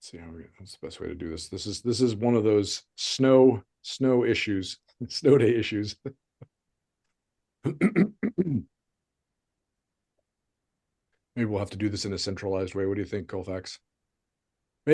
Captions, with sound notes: Let's see, what's the best way to do this? This is one of those snow issues... Snow day issues. (chuckles) (clears throat) Maybe we'll have to do this in a centralized way. What do you think, Colfax?